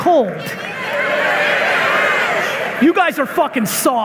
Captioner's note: audience clamoring